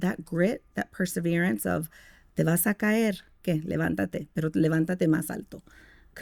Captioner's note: speaking Spanish